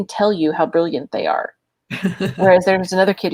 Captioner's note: laughs